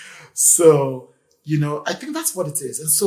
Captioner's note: laughs